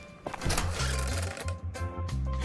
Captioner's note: door opening